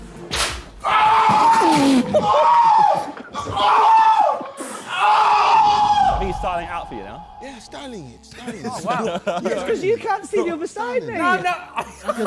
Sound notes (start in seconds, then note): 0.9 JJ screaming; 11.2 Ethan laughing